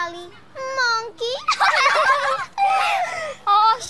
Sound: laughter

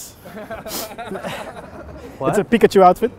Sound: laughing

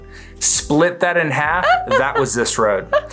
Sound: laughs

